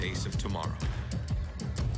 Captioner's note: heart beat